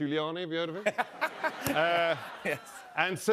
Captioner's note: laughter